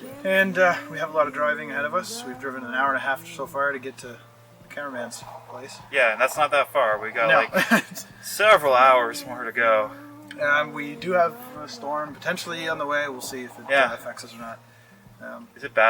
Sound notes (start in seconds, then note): 6.9 laughing